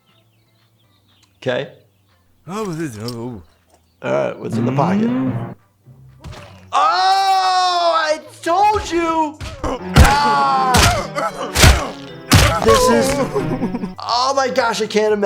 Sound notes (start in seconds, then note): 9.6 painful cries and thuds